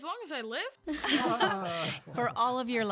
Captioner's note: laughing